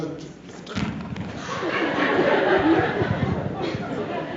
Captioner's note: mic rumbles